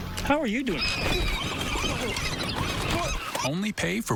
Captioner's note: seagulls squawking